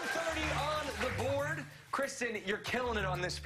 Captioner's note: cheers and applause